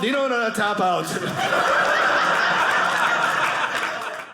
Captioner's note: audience laughing